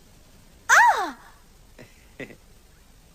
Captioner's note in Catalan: crit de sorpresa